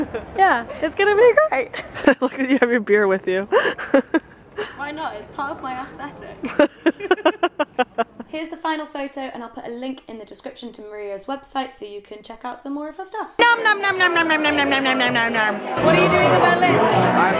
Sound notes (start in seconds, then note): 3.4 laughs; 6.4 laughter